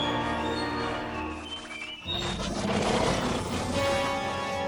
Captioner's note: Kaufo growls